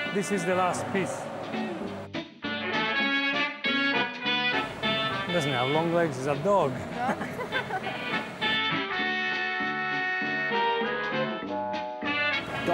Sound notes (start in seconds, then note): 2.1 old timey jazz music; 6.9 scattered chuckling; 8.9 old timey jazz music